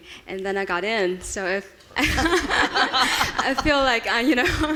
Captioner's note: laughing